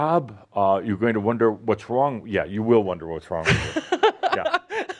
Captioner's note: laughs